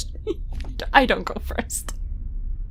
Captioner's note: laughing